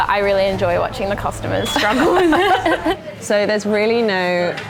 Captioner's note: laughing